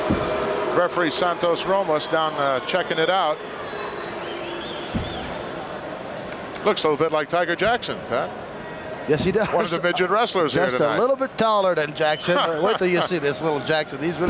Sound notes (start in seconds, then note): 9.1 laughs